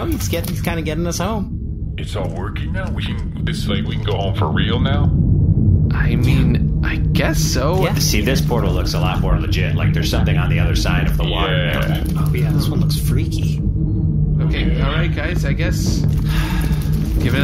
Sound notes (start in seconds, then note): 4.9 the portal hums to life again